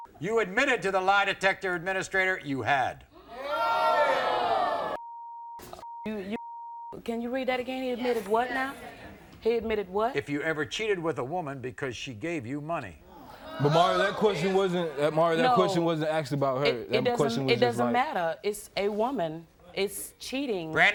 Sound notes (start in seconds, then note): 3.4 audience oohs; 5.0 beep; 13.4 audience oohs